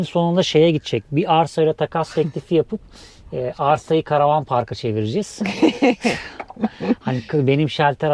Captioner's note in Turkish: kahkaha